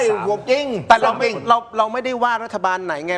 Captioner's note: none